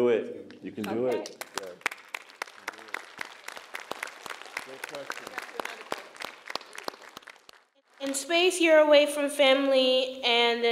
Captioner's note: applause